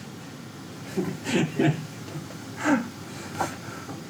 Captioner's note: both laugh